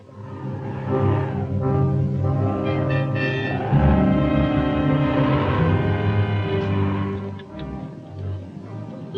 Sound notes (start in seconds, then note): 0.0 wind howling; 0.0 dramatic orchestral music